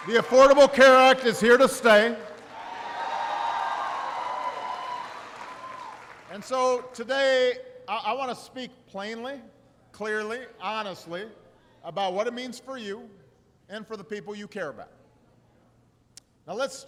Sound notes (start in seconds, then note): 4.1 applause